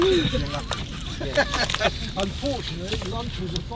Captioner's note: laughter